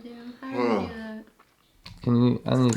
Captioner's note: yawn